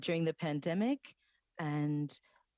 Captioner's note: speaking French